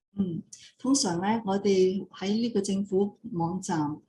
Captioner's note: non-english speech